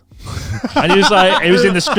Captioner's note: laughs